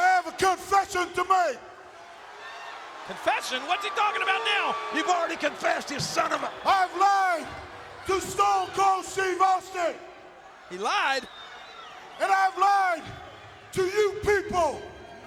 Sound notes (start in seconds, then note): 2.4 audience booing